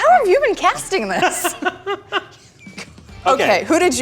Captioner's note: laughs